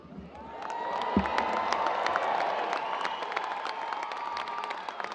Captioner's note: audience cheers and applause